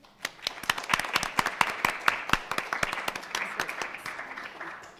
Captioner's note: audience and panel applauding